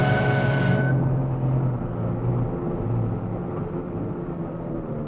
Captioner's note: engines humming